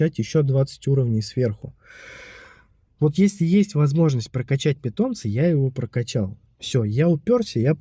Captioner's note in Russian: тяжело вздыхает